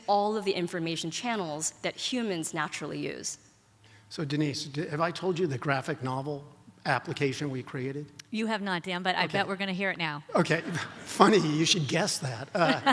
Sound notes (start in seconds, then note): 10.3 audience laughs; 12.5 laughs